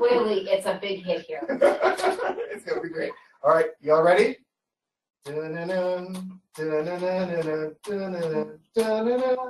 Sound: laughter; humming along to music

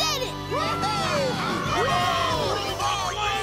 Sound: all cheering

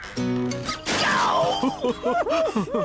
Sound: crash!; laughing

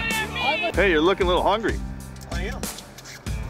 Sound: voiceover

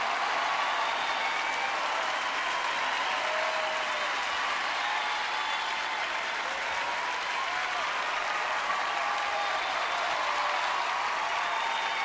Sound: cheers and applause

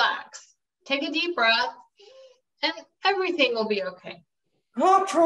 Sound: inhales

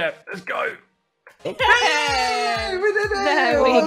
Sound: cheering

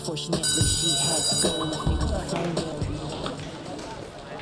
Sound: bell ringing

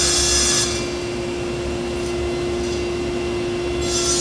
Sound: sawing wood

